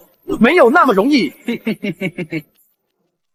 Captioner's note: sinister chuckle